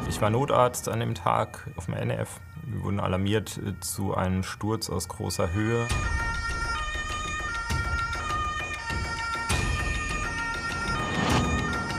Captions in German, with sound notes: Ich war Notarzt an dem Tag auf dem NEF. Wir wurden alarmiert zu einem Sturz aus großer Höhe. (Sirenen, spannungsvolle Musik)